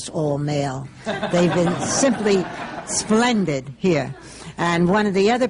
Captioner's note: laughter